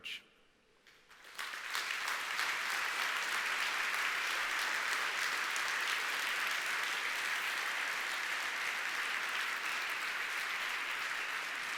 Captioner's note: applause